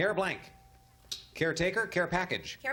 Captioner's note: ding